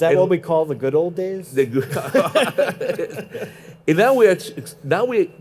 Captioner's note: laughing